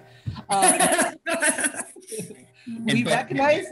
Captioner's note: laughing